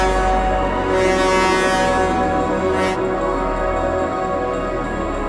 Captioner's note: vehicle toots; experimental music continues